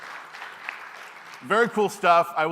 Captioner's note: applause